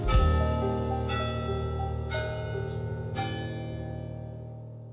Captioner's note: Orton Hall bells chiming